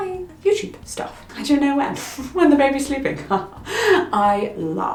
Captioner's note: laughs